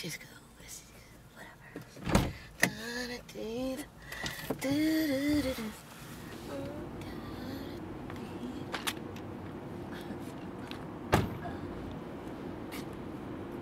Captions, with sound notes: This is cool. This is... Whatever. (Crystal humming)